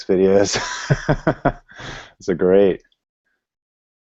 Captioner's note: laughing